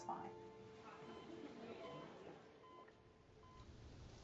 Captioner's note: heart Monitor Beeping